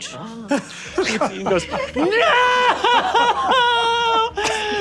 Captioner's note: sobbing